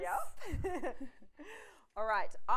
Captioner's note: laughs